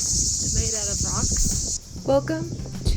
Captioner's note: sarcasm